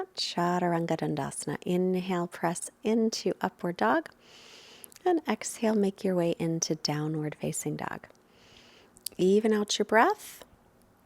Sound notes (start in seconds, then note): 4.2 inhales deeply